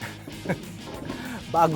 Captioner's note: chuckles